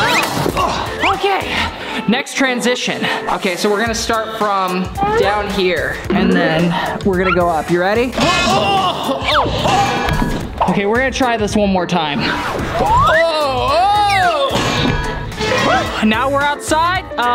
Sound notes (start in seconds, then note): 8.1 groaning; 8.1 clanging; 12.5 clanging; 12.9 groaning